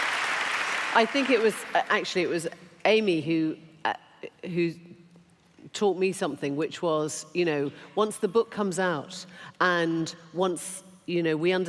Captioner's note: applause